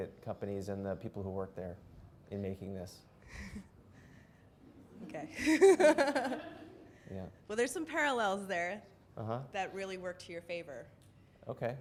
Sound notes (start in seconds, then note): 5.2 voiceover; 5.3 laughs